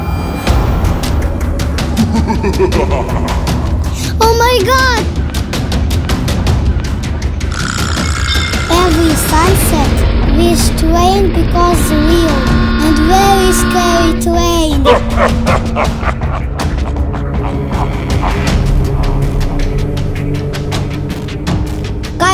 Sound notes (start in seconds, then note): 0.2 scary sounds, thunder and scary laugh; 5.2 scary Halloween sounds and music; 14.8 scary monster laugh; 19.4 scary Halloween music